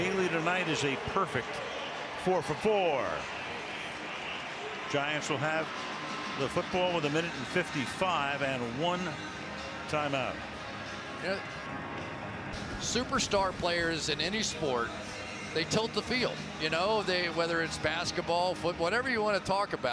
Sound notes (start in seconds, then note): 3.7 pa announcement; 10.7 upbeat music